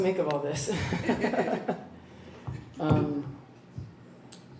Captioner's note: laughs